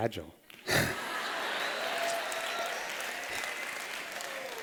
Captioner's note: laughter